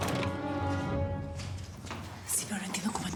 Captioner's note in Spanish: ruido al cerrar